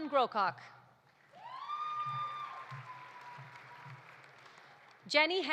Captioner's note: audience applauding; audience cheering